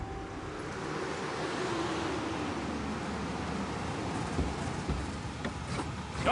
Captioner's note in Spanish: Sonido de los carros